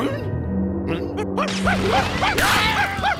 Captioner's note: barking; screaming